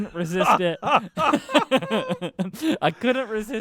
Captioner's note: laughs